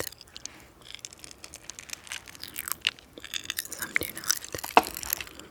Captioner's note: candy popping